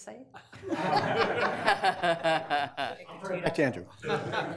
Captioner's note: committee members laugh